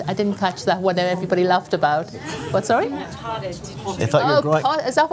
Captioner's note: laughter